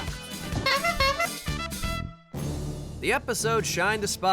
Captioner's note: honking